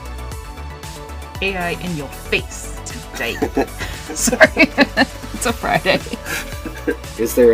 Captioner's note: laughter